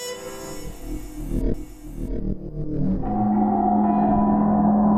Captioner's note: eerie sound